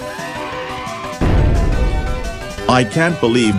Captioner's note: Furby Guard Screaming; bloody explosion